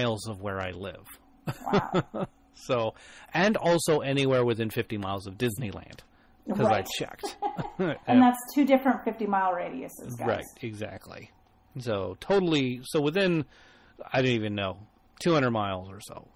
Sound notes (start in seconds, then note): 1.4 chuckles; 6.9 both laugh \